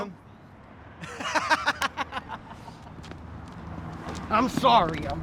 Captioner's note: laughs